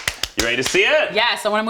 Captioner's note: clapping